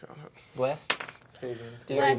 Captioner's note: rolls dice